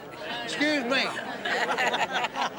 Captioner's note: laughter